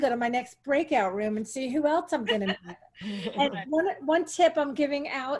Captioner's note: laughter